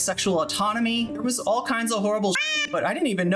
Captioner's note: meow